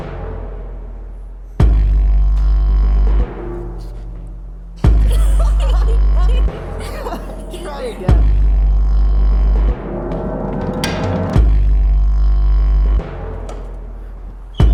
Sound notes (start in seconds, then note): 4.8 laughs